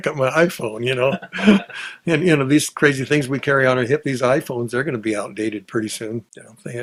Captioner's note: both laughs